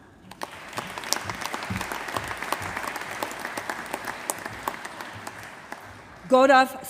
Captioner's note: applause